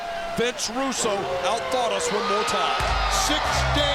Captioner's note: wolf howls